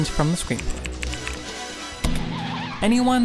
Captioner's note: typing